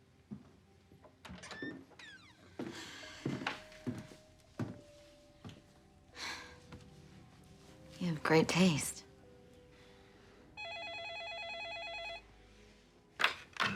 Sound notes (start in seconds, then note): 2.6 sighs; 10.5 telephone rings